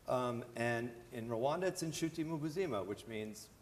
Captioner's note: non-english